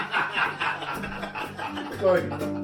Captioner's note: more laughter